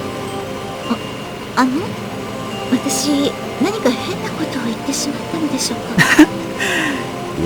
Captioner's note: rain